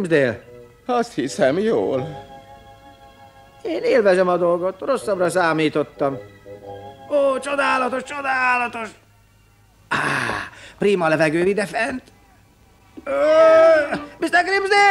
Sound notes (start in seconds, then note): 6.8 groans; 13.0 yelps